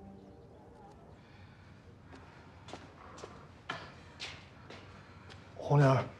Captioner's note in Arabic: صمت غرفة الطوارئ